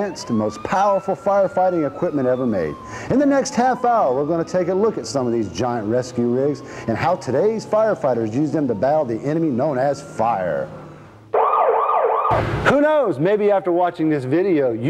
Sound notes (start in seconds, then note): 11.2 siren wailing